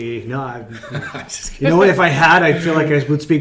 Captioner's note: laughing